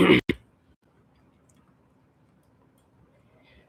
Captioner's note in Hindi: गला साफ़ करने की आवाज़